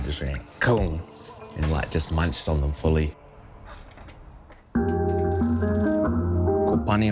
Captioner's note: imitates tooth thuds